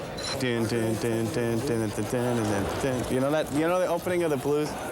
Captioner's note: man humming song